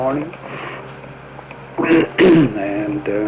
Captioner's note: clears throat